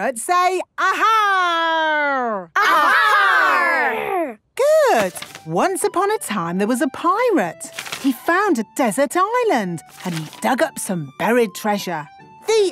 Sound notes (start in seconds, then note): 2.6 all shouting